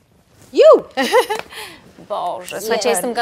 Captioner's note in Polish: okrzyk radości